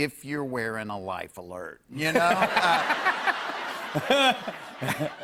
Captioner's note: laughter